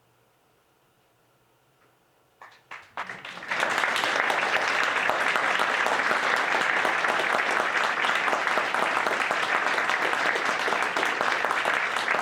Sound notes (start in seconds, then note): 1.4 audience applauding; 8.1 audience applauds